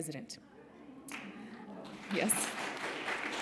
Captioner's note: applause